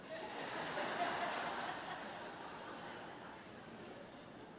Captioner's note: audience laughs